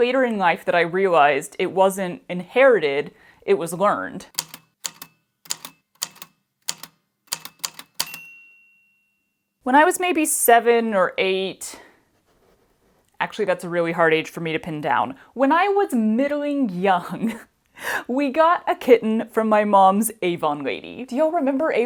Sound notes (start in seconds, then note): 4.3 A typewriter clicks away, then dings